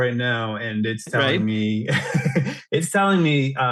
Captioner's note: laughs